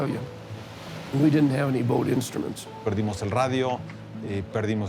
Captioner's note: in Spanish